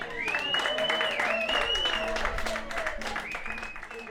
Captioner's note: applause